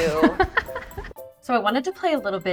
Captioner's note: laughs